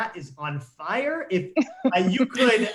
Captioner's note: laughs